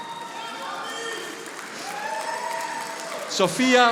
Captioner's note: audience applauding